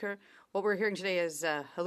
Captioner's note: speaking French